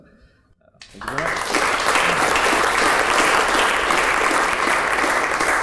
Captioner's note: crowd clapping